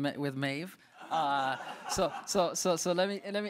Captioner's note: audience laughs